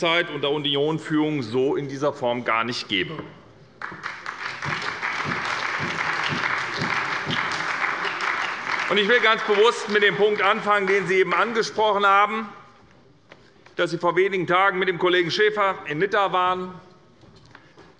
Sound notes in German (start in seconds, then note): 3.8 Beifall bei der SPD